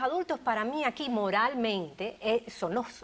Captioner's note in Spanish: Hablan al unísono